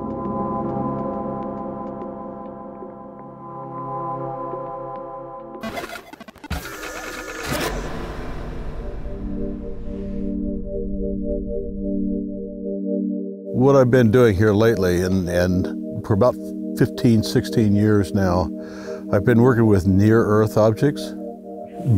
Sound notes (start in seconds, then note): 0.1 ambient space music; 5.6 rapid sproing